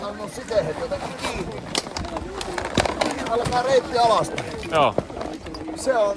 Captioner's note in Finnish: askelten ääniä